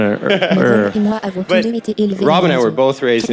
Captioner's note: crowd laughing